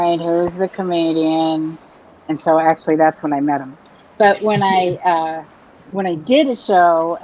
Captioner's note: laughs